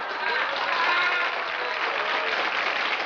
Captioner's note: applause